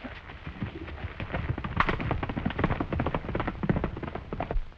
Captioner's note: hooves clattering